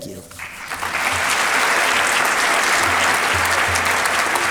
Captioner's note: applause